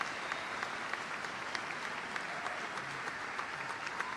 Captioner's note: applause